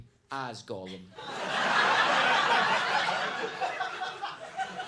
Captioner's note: audience laughing